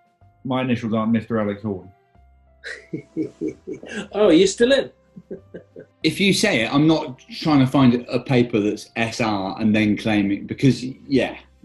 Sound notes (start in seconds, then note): 2.6 chuckling